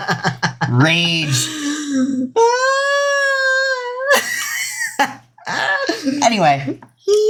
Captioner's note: laughs; still laughing